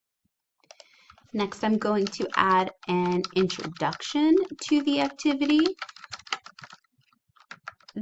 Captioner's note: typing